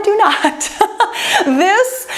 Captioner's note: laughs